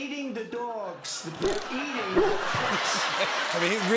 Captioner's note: barking loudly